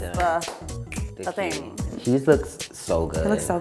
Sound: clicks fingers

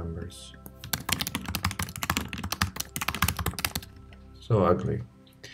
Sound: keyboard clicking

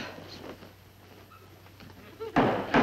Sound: loud banging

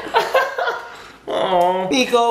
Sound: laughter

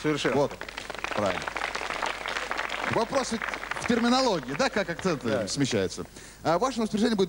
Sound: applause

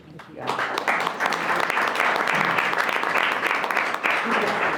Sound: audience applauds

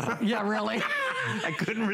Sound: laughter

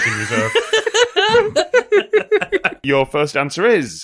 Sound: laughter

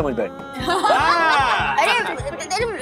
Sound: laughing

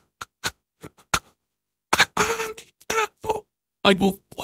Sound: tongue sounds; wheeze

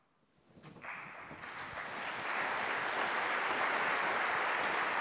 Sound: applause

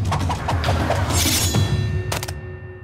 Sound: none

